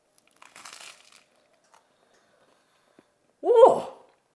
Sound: bread crunching

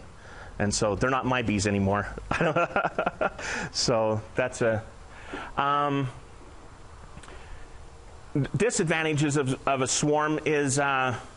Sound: laughing

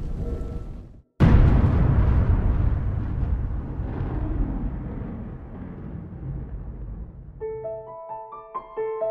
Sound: sound of explosion

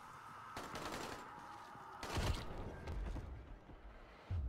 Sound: gunshots

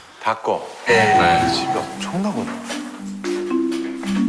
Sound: ding dong

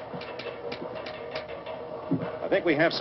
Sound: metallic noise

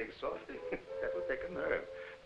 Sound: Jakob chuckling

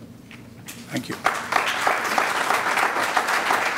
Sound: applause

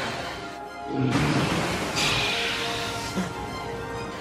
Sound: monster screeching

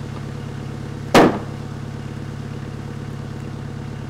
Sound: wood slab thuds

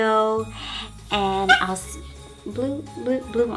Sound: dog barks

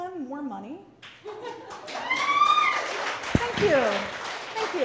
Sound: audience applauds

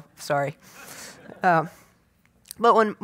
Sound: audience laughs

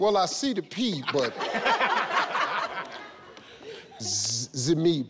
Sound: laughing

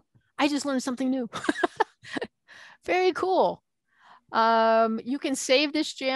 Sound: laughing

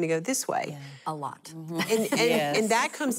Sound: laughing

